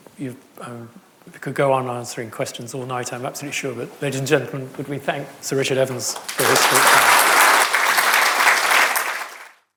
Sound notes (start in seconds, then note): 5.9 audience applauding